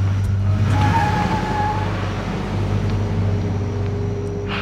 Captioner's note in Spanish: Ruido del vehículo